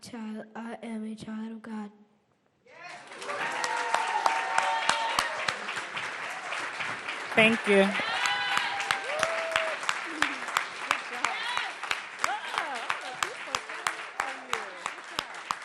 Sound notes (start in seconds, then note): 7.8 cheers and applause